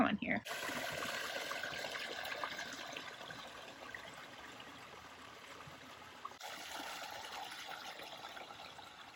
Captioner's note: creek burbling